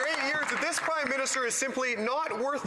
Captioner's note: some Applause